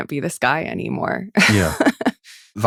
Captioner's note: laughs